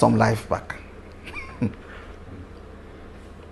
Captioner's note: laughs